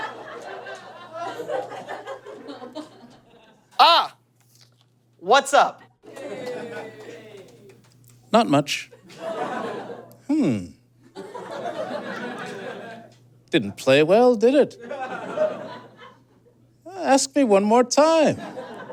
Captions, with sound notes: (scattered giggling) Ah! What's up? Yay! Not much. (scattered laughter and groans) Hmm. (audience chuckles) Didn't play well, did it? Ask me one more time.